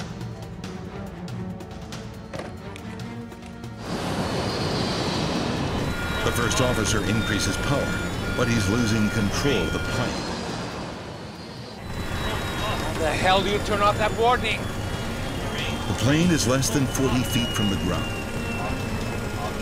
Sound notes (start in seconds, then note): 0.0 dramatic music; 4.3 engine humming